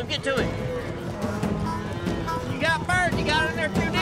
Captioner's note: mooing